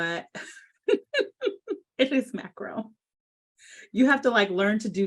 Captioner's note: laughs